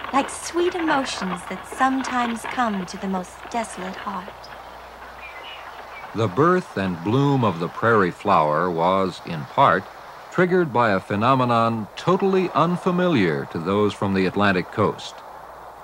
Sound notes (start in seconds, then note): 11.6 thunder clapping